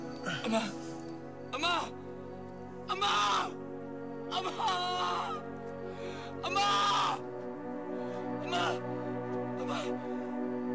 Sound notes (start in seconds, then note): 2.8 screams; 6.4 wails